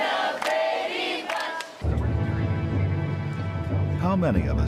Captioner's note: Χειροκρότημα